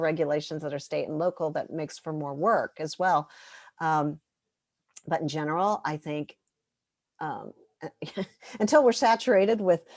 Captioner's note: laughter